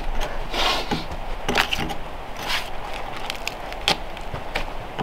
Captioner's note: tool scraping